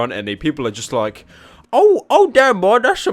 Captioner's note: breath